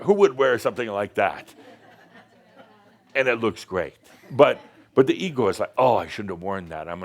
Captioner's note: a few chuckles